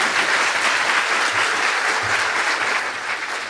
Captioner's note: applause